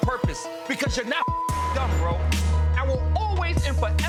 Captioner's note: beep